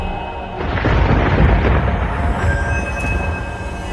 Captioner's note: explosion booms